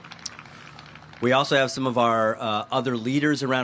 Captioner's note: applause